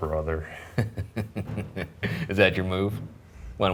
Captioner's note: laughs